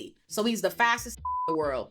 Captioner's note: beep